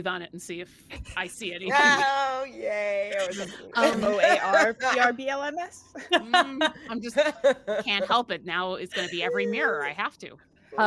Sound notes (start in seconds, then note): 5.9 laughing